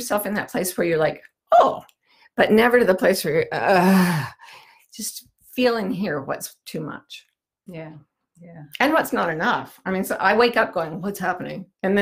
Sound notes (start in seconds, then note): 3.6 groans